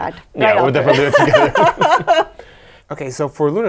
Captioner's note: both laughing